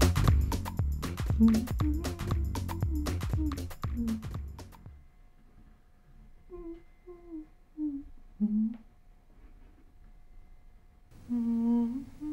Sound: humming quietly

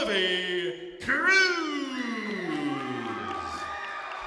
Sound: crowd cheering

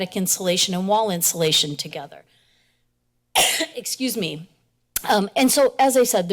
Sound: coughs

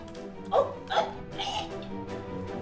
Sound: choking

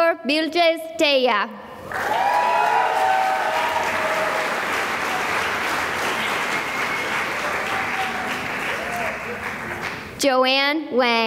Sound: cheering and applause

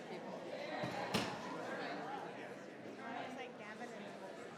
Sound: group chattering

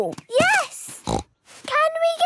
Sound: snorts

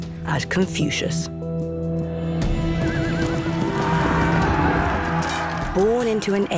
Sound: warriors shouting; triumphant music

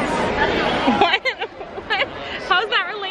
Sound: laughs

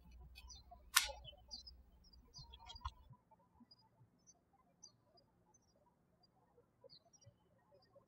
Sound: birds chirping

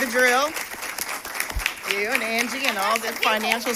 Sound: applause

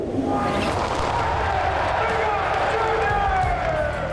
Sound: crowd cheering

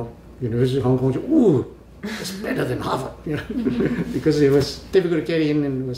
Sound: all laugh

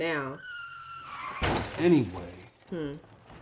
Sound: car crashing

